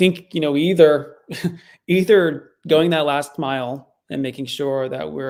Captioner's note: chuckles